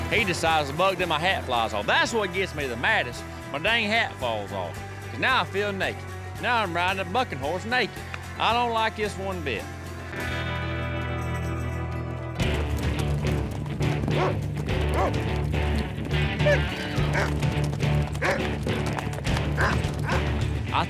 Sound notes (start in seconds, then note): 12.5 horse trots off; 14.3 dog barks